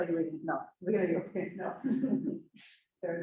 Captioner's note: chuckles